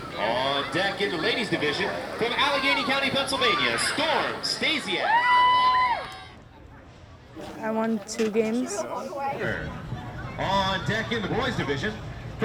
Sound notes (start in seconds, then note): 5.8 crowd cheers